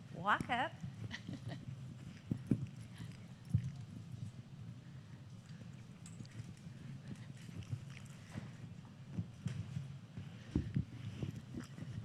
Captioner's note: laughter